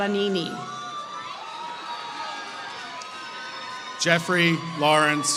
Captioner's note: applause